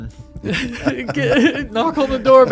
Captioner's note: all laugh